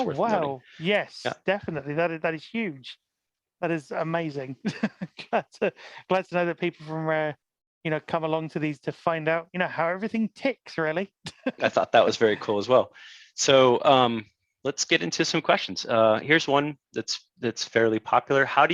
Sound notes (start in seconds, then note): 4.6 laughs; 11.3 laughs